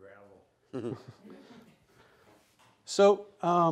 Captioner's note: laughing